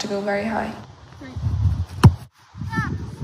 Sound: wind blowing; ball kicking sound

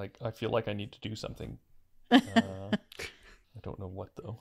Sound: laughs

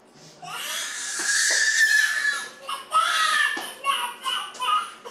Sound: screaming

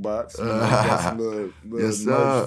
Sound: laughing

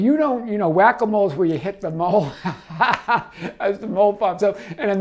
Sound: laughs

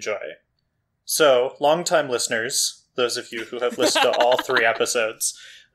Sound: laughs

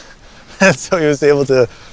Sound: giggling

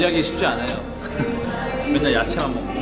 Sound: nice laughter

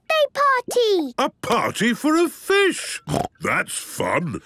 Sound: snorting

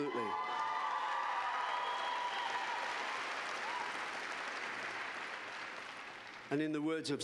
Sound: cheers and applause

